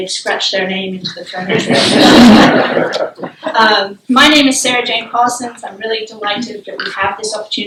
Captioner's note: laughter